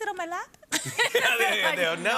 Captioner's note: both laugh